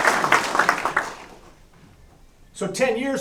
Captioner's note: applause